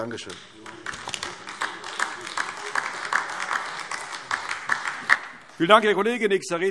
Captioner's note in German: Beifall AfD